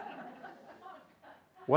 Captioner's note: laughter